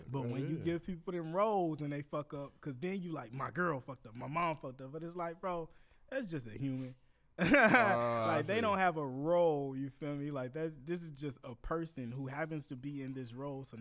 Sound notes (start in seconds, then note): 7.4 laughs